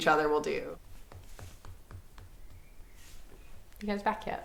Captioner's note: foot tapping on wood